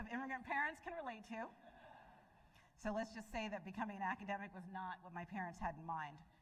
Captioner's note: laughter